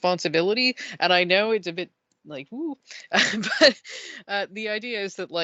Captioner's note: worried noise